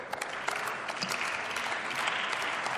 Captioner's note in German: Beifall